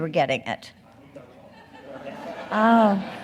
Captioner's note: audience laughing